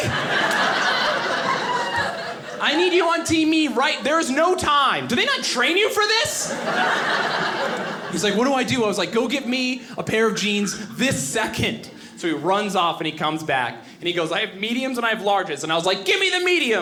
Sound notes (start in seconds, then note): 0.0 audience laughing; 6.3 audience laughing